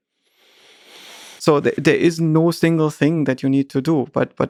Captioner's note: Lex deeply inhales